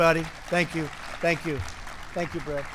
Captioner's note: applause